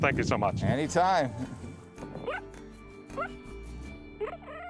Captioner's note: cheetah chirping